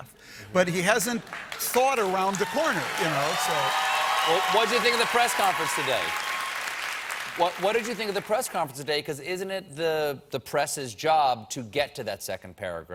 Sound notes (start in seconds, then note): 4.2 applause; 4.6 cheers